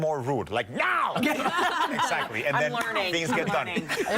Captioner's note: laughter